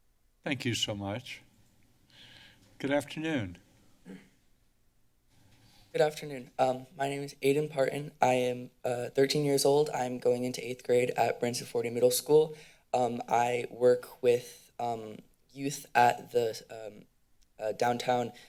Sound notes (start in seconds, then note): 2.1 inhales; 4.0 clears throat